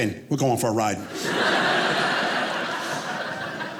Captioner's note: audience laughing